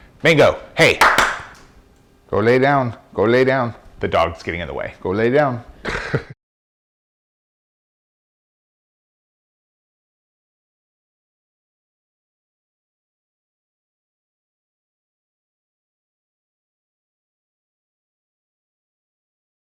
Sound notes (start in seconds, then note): 1.0 claps; 5.8 laughs